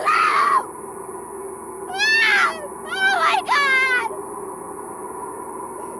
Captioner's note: screams